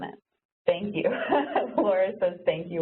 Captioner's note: laughs